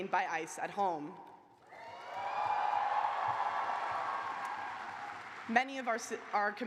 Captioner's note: cheers and applause